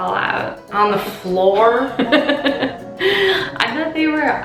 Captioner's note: laughing